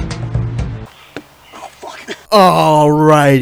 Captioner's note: laughs like a lunatic; Ball bounces off of Alec's leg